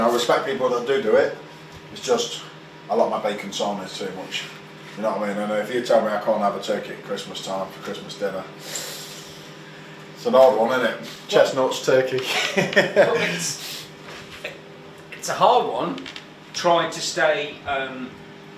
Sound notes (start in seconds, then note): 8.6 breathes in through teeth; 12.2 laughs